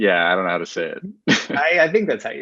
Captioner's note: chuckles